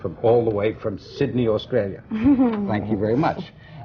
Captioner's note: laughs